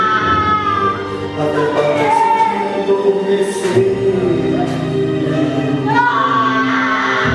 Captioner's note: screams